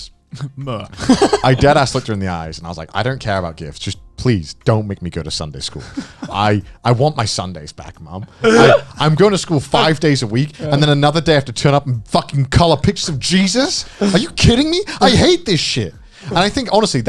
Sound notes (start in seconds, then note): 0.9 chuckling; 8.4 chuckling